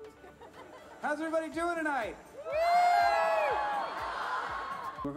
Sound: crowd

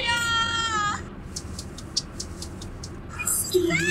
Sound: slap! Slap! Slap! Slap! Slap!

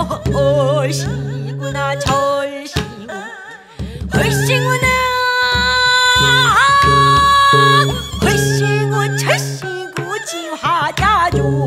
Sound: dancing sound

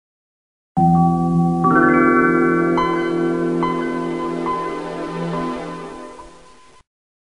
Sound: Microsoft Windows 95 Startup Sound Plays

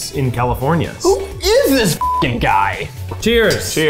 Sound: beeps

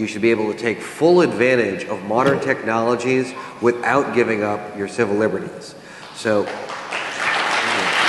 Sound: applause

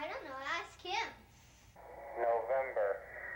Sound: radio

